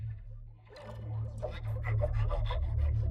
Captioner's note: panting; tense music plays